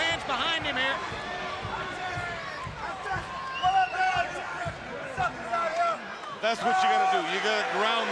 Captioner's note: crowd chatter